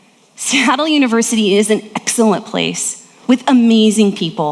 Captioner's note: laughs